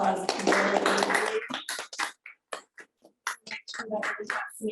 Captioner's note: applause